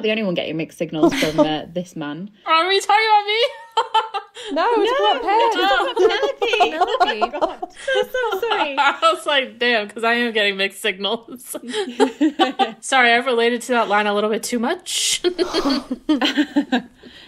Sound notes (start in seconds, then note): 3.5 laughing; 11.6 laughing; 15.2 laughing